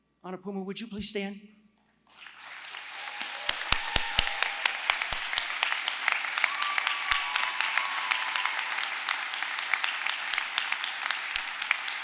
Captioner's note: applause